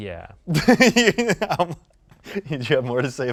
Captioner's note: laughs